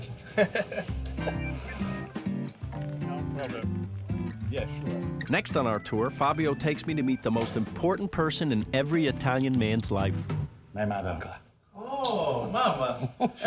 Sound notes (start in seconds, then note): 8.2 speaking Italian